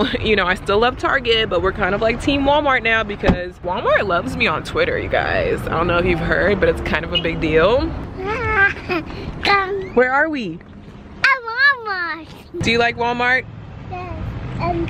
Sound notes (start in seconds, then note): 3.2 car door clunks; 7.8 car beeps; 8.4 laughing